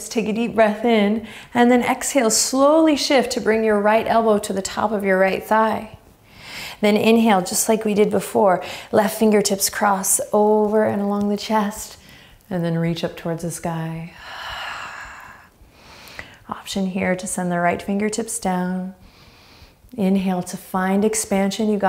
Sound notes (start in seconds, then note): 14.2 exhaling strongly; 19.0 inhaling deeply